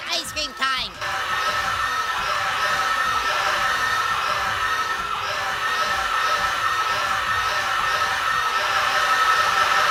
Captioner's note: screaming